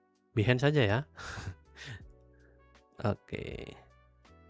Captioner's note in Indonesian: terkesiap